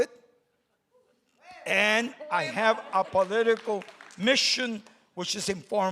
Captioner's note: crowd cheers